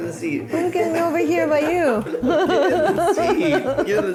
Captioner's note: laughs